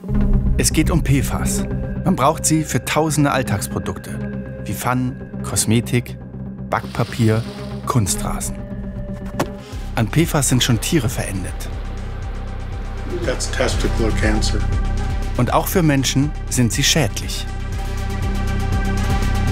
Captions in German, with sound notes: Es geht um PFAS. Man braucht sie für Tausende Alltagsprodukte. Wie Pfannen, Kosmetik, Backpapier. Kunstrasen. An PFAS sind schon Tiere verendet. (Dramatische Musik) (englisch:) Und auch für Menschen sind sie schädlich.